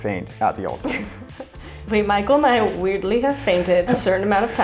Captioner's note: laughter